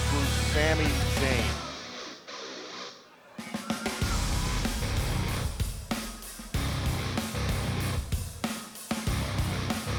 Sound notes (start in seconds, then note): 3.8 crowd chatter